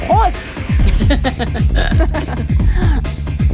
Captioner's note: both laughing